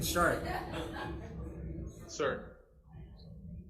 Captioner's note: crowd laughing